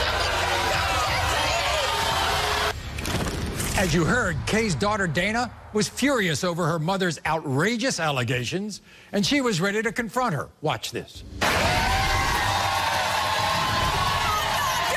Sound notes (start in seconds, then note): 0.0 cheers; 14.5 cheers